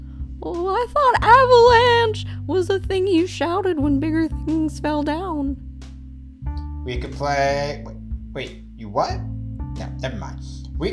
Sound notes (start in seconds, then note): 7.4 holds out "ay" sound